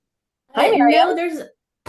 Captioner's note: indistinct conversation